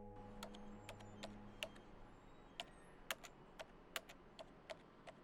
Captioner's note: computer keys clicking